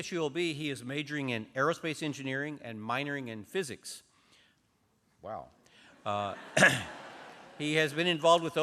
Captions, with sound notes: AT CSULB, HE IS MAJORING IN AEROSPACE ENGINEERING AND MINORING IN PHYSICS. WOW [LAUGHTER].